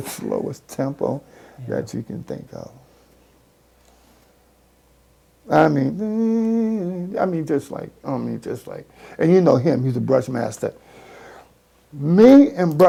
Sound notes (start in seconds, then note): 5.8 hums